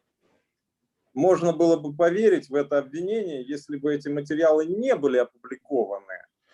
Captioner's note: speaking Russian language